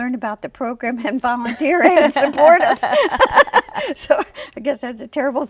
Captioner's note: laughs